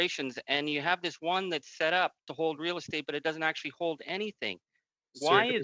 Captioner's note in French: voix de l'interprète